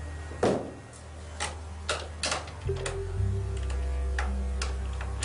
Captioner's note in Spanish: Ruido al cerrar